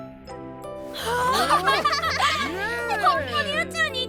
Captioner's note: cheering